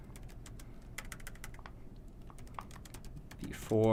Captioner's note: typing Noises